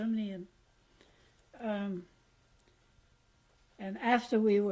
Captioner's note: pauses for 3 seconds